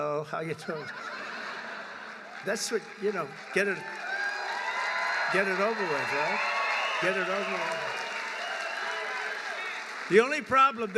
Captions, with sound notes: “Hello. How you doing?” (Laughter.) That’s what -- you know, get it -- get it over with, right? (Applause.) Get it over with.